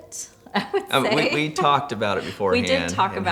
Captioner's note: chuckles